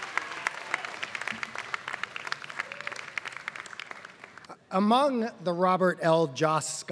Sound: applause

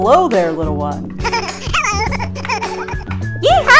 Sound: small potatoes nervously laugh

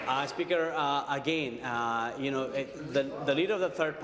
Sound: applause

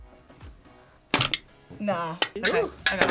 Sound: can crackles

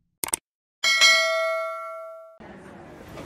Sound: bell; airport noise

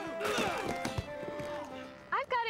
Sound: grunting and groaning

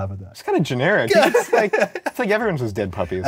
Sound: both laugh

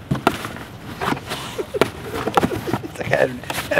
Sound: Flip's claws scratch the cardboard

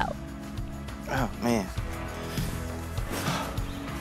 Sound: sighs

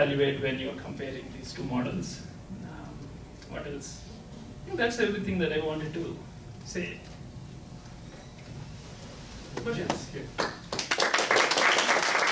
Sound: clapping

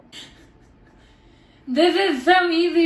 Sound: laughing

